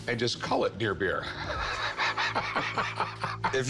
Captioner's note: laughter